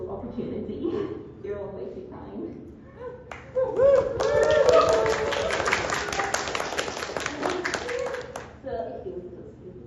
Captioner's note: applause